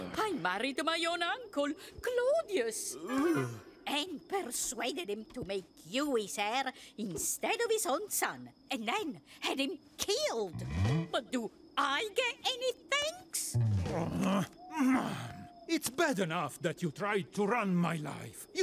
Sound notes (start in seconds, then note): 13.5 groaning